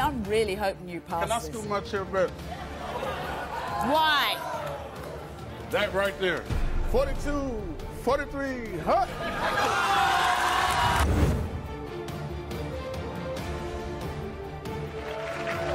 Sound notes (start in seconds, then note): 2.5 crowd laughing; 8.8 crowd laughs; 12.2 dramatic music; 14.6 applause